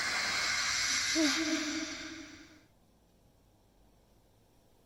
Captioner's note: Leona moans